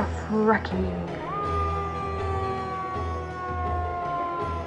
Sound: emergency sirens

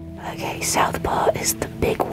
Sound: whispering

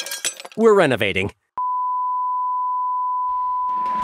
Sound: beeping

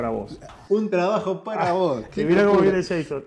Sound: ha ha ha

